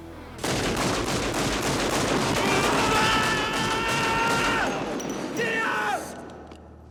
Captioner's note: pistol fires rapidly; Johnny yells in anguish